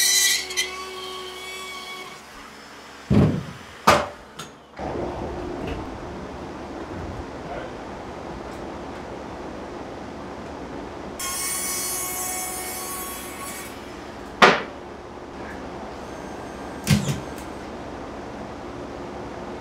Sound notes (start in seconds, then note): 3.1 thumping on ceiling; 11.2 saw buzzing; 16.8 nail gun sounds